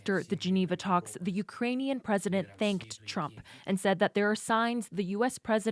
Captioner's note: speaking alternate language